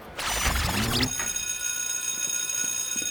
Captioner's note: school bell rings